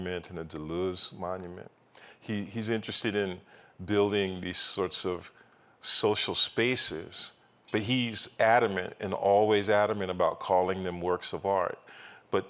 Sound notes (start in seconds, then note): none